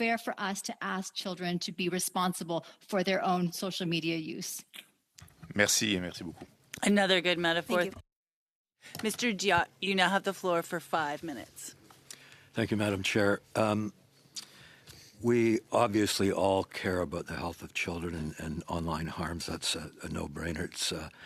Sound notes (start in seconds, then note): 8.8 speaking French